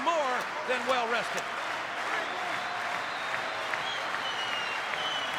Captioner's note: crowd clapping